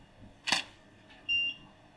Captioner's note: camera shutter